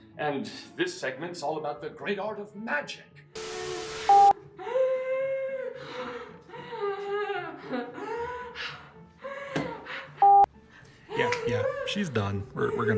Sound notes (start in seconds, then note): 3.3 static hissing; 4.0 beep; 5.8 breathing heavily